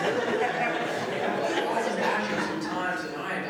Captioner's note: laughter